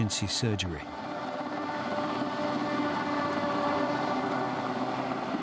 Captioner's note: helicopter droning